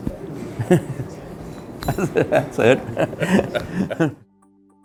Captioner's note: laughs